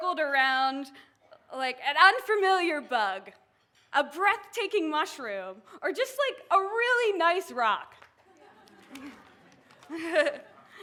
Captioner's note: laughs